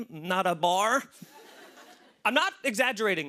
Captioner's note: laughter